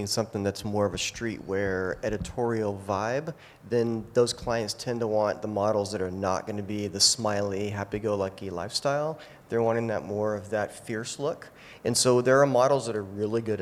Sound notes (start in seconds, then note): none